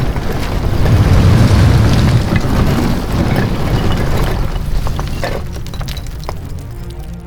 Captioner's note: rocks and debris falling